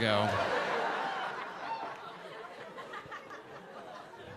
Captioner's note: audience laughing